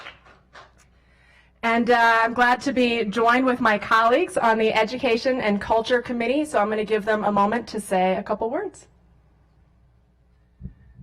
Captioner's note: applause